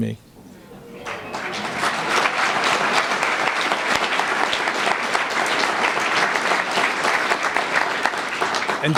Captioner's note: applause